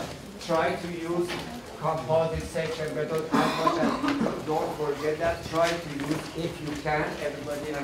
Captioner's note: coughing